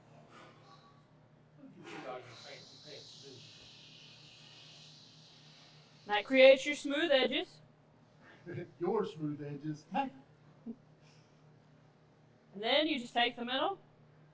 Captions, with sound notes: and that creates your smooth edges. - (chuckles) Your smooth edges. - And then you just take the middle,